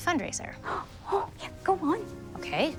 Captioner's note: gasps